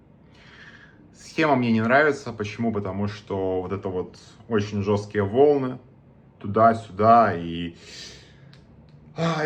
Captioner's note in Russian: вздыхает